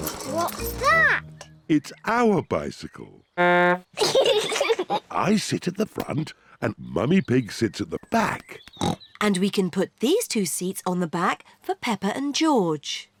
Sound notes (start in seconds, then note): 3.4 toots horn; 3.9 both giggle; 8.8 snorts